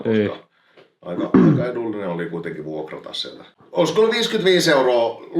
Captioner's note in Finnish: rykäisee